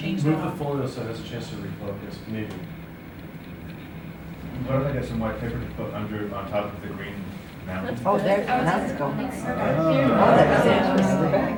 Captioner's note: sounds of approval